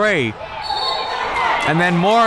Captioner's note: whistle blaring